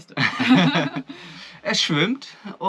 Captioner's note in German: beide lachen